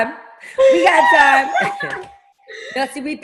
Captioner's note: ringing; laughing